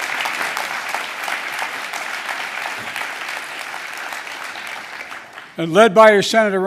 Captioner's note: applause